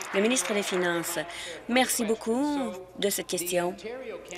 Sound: applause

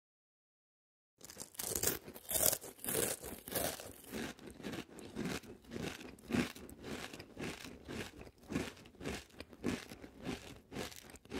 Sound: sound of eating

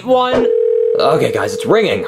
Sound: phone ringing

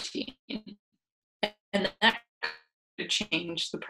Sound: audio cuts out

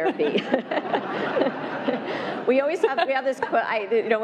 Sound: laughter

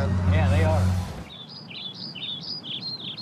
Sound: birds chirping

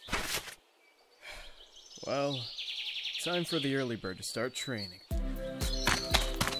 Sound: sighs

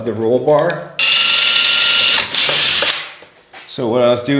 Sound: drilling

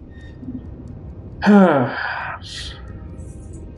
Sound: sighing

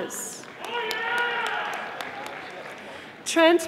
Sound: audience applauding

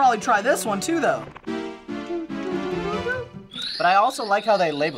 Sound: humming along to music

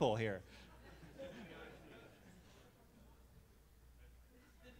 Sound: all laughing

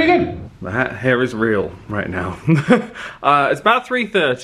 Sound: chuckles

